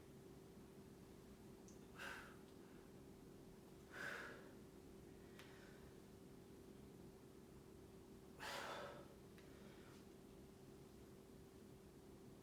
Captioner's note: inhaling and exhaling